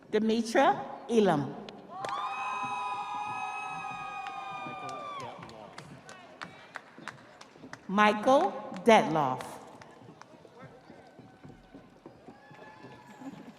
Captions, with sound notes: Dimitra Elam. (audience applauding) (audience cheering) Michael Betnoff.